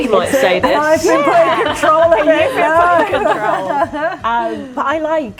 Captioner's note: laughing